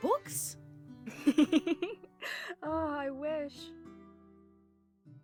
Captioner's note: laughs